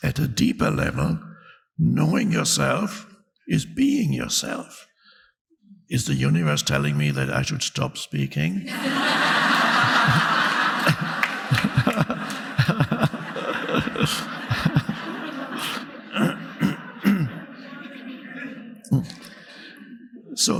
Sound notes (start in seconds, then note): 9.0 audience laughing; 12.1 Eckhart laughing